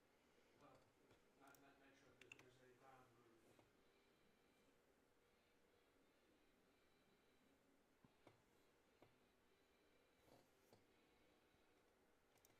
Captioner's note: mouse and keyboard clicking